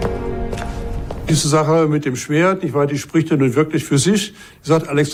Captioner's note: in German